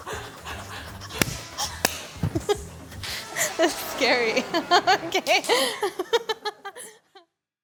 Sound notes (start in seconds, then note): 0.3 crew laughs; 1.4 chuckles; 1.8 hand claps; 1.8 hands clapping; 6.0 laughs